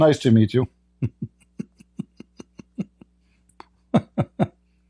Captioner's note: Ketawa